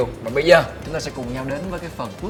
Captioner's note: none